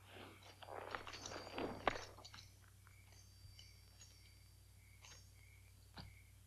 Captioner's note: spurs jingle